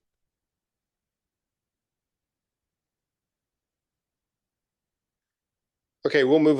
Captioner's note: silence